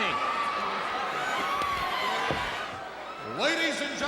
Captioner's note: crowd cheering